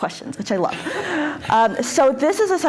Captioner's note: all laughing